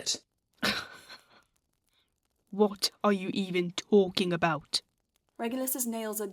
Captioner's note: James laughs